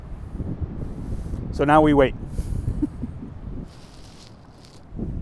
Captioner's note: laughing